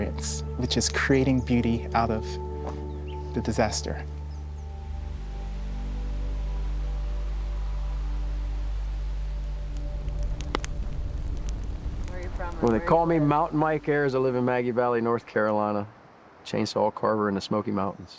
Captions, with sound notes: which is creating beauty out of the disaster. [gentle music] [fire crackles] - Where are you from? - Well, they call me Mountain Mike Ayers. I live in Maggie Valley, North Carolina, chainsaw carver in the Smoky Mountains.